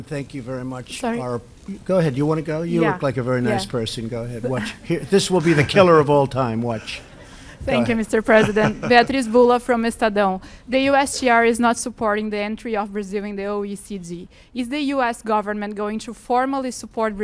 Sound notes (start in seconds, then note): 6.7 laughter; 8.0 laughs